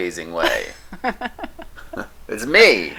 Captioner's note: laughing